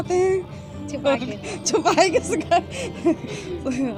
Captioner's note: laughs nervously